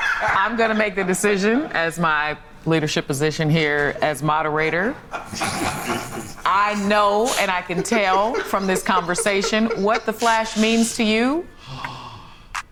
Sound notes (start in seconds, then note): 0.0 laughs; 4.8 laughing